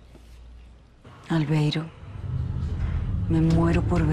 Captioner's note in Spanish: Alerta de mensaje